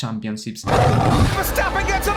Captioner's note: lion roaring